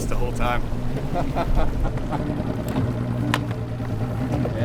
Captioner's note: laughing